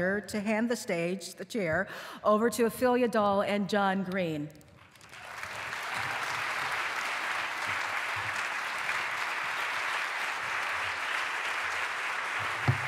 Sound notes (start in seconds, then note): 4.8 applause